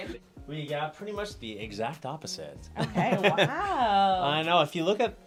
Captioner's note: laughs